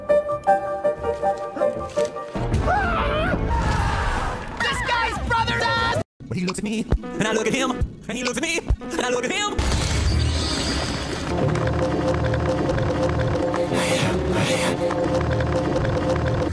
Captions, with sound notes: [Suspense music] [Screams] Well he looks at me? And I look at him! And he looks at me! And I look at him! I am, I am.